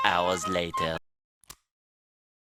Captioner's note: click